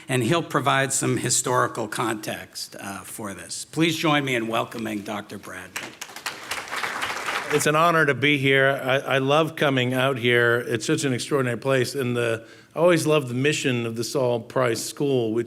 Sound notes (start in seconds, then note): 5.8 audience applauding